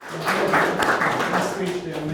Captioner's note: audience applauding